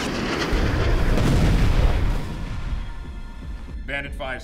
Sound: explosions booming

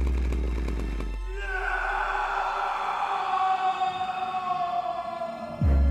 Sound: Franz screams

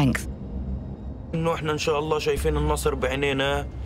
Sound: speaking Arabic

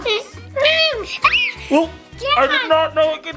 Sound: screaming

